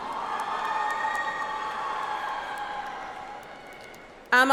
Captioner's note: audience applauds